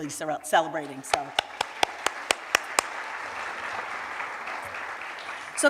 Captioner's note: cheers and applause